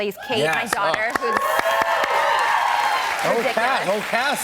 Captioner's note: cheers and applause